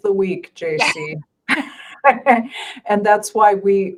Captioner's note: laughing